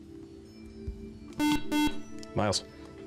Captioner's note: beep